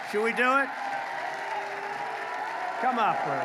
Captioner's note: applause